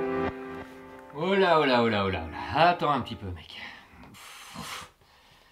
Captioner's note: voiceover